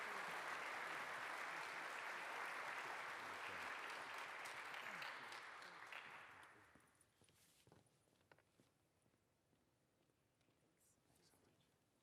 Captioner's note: applause